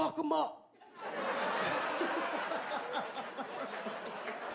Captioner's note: crowd laughing